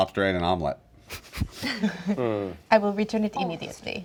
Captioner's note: giggling